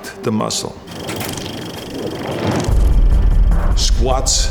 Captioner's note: film rattling